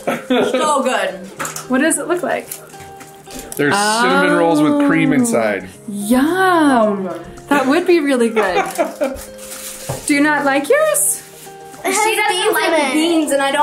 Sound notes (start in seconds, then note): 8.3 laughing